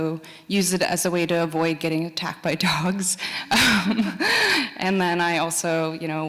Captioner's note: laughs